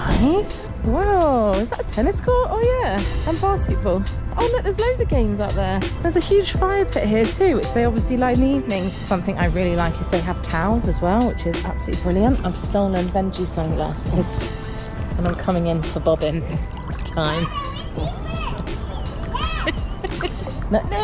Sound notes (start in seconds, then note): 17.9 water sloshing; 19.4 giggling